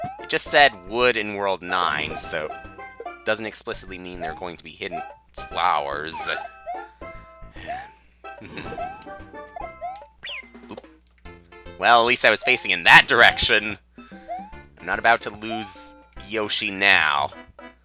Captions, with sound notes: It just said Wood in World Nine, so doesn't explicitly mean there are going to be hidden Flowers. (*breathing*) Oop. Well, at least I was facing in that direction. I'm not about to lose Yoshi...now.